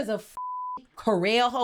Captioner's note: beep